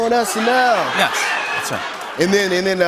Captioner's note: laughter